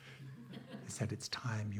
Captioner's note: audience laughing